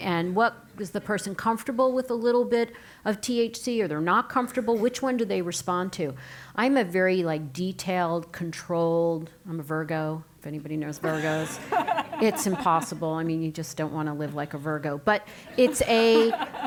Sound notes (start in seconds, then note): 11.0 laugh; 15.4 laugh